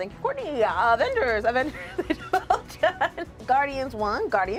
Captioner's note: laughs